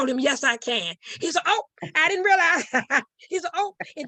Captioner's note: chuckles